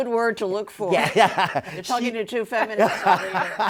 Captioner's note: laughing; chuckles